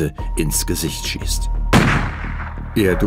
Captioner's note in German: Schuss